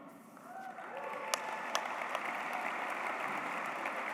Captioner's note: applause